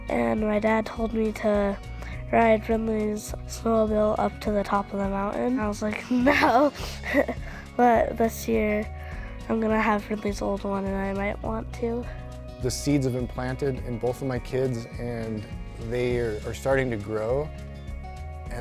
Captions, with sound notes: and my dad told me to ride Brynleigh's snowmobile up to the top of the mountain. I was like, "No." (chuckles) But this year I'm gonna have Ridley's old one and I might want to. - The seeds have been planted in both of my kids. And they are starting to grow.